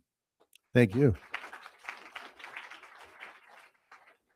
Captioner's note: crowd applauding